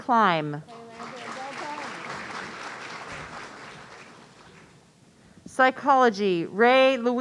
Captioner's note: audience applauding